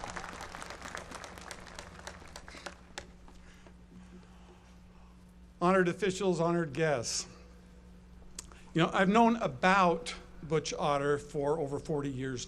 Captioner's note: applause